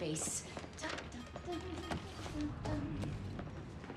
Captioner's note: humming